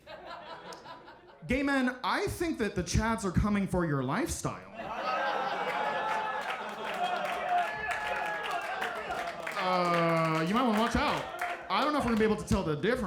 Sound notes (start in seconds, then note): 4.7 audience laughing; 5.5 audience clapping